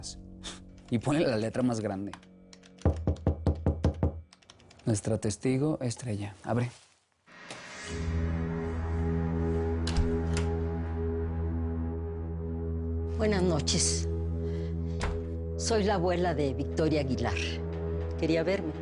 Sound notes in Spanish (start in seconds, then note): 2.8 Toques en la puerta